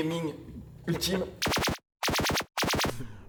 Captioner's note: laser gun noise